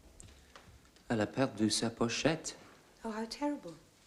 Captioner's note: speaking french